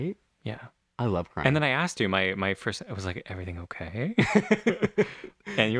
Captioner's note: laugh